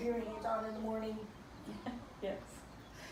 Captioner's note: laugh